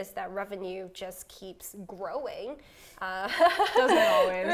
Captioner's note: laughs